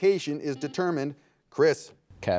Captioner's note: buzzer beeping